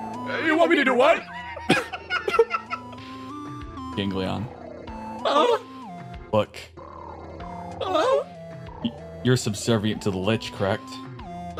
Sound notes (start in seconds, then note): 1.2 laughs